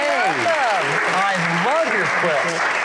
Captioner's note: audience applauds